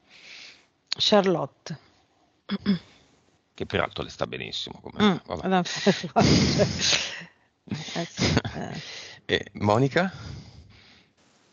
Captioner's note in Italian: Risate